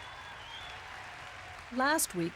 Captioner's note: audience laughs and cheers